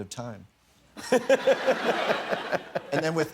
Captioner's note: laughter